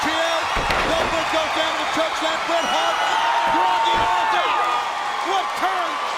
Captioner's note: crowd cheering